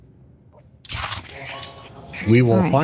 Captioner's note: whispering